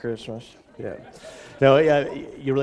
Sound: laughter

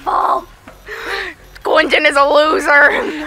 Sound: deep inhale

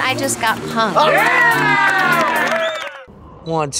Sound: shouting

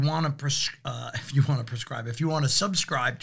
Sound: laughs

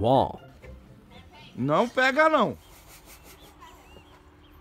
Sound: foreign language

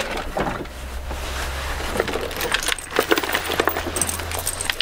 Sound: equipment rattling

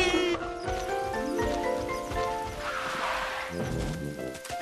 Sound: laughing

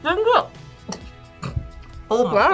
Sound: laughs

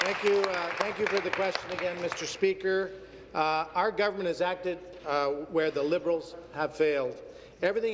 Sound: applause

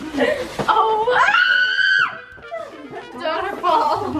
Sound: screams

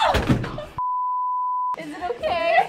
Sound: screams; test pattern beeps

